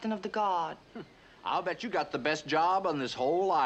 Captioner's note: scoffs